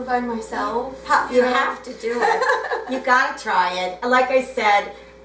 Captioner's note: laughs